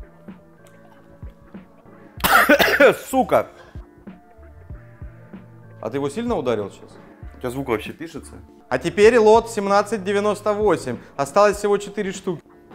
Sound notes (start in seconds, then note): 2.1 coughs